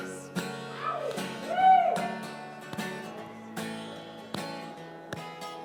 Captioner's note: audience cheering